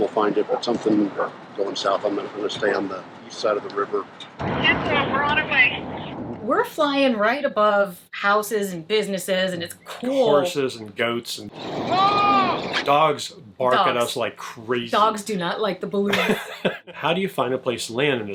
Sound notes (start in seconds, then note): 5.0 woman On Walkie-Talkie; 11.9 yelling